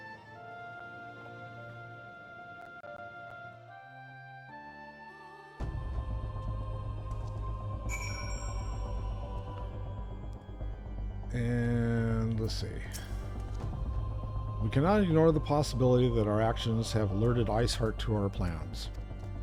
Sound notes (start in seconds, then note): 7.9 bell rings